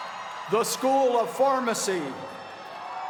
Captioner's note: cheers and applause